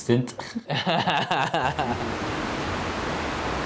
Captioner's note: laughs